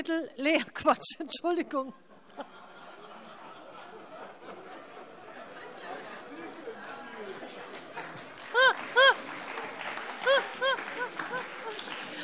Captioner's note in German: Vereinzelte Heiterkeit und Beifall CDU und BÜNDNIS 90/DIE GRÜNEN